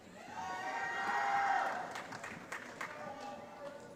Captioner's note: applause